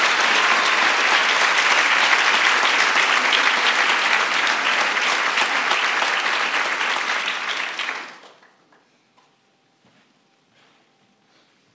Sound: applause

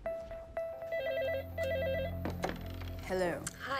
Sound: phone ringing

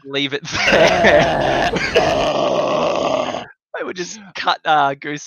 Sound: goose gagging

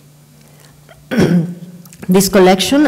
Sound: clears her throat

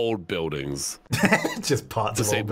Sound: laughing

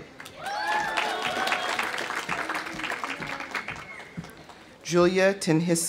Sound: audience applauding; audience cheering

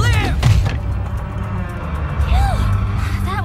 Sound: slamming

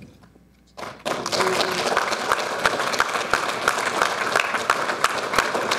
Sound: audience applauding

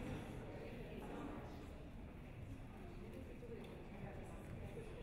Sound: quiet chatter

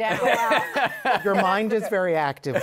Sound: laughs

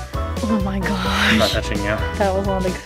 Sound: laughing

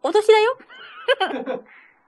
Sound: laughs

